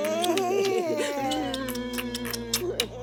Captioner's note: laughter